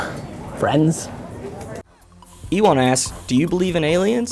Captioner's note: voiceover